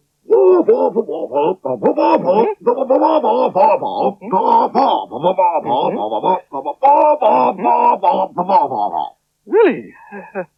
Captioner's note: Spencer Talks In Spider Language